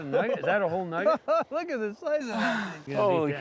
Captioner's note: chuckling